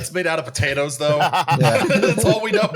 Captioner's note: laughter